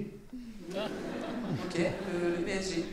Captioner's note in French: rires